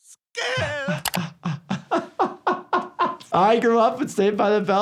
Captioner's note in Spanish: el doctor se ríe